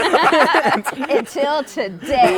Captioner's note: laughter